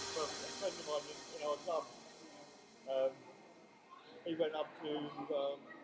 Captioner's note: # upbeat music #; background chatter